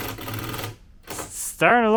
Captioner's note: drill whirring